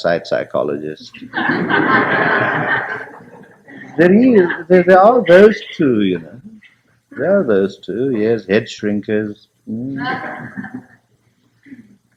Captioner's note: laughter